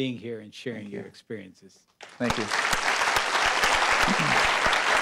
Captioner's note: applause